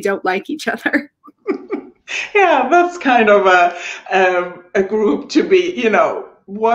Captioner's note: laughing